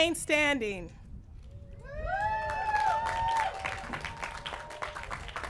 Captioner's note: applause